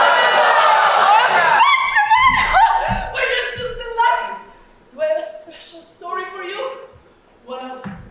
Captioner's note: squeals